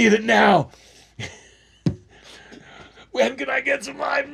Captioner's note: laughs